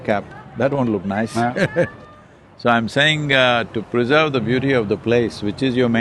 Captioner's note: laughs